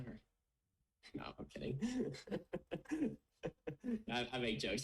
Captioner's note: laughs